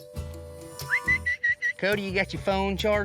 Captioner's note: whistling